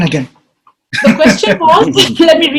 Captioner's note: laughing